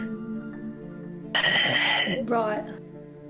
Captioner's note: tired sigh